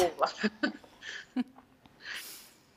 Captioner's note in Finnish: nauraa